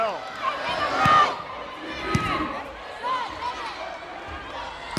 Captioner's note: players yelling